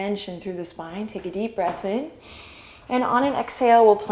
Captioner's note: inhale